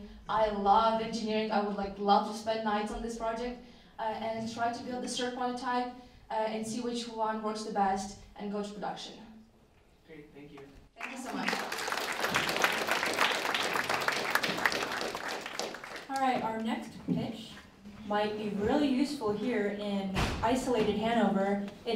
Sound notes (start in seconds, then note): 14.5 applause